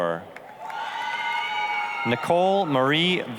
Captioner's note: applause, cheering